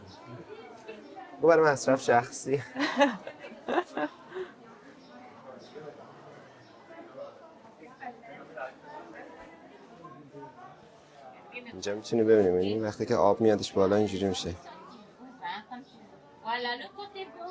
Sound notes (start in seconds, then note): 5.4 laughs